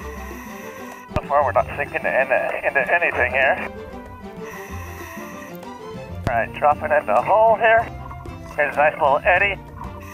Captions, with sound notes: (deep breathing) So far, we're not sinking into anything here. (upbeat playful music) (deep breathing) All right, dropping into a hole here. Here's a nice little eddy.